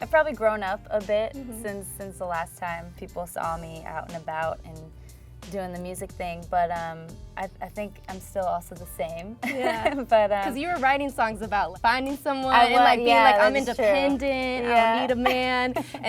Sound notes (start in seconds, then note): 9.4 laughs